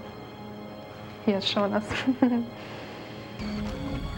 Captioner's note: laughs